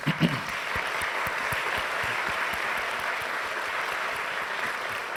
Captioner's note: audience applause